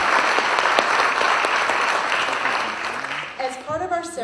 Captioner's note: applause